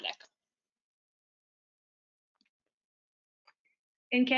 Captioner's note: silence